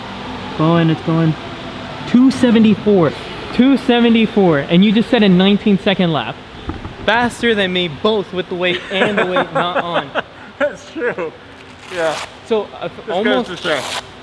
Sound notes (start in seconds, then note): 8.7 laughs